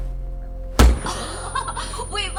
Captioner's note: suspenseful music; gun fires